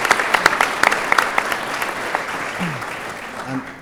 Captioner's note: applause